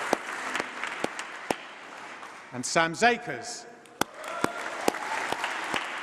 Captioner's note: applause